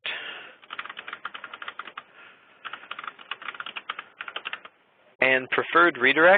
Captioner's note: keyboard typing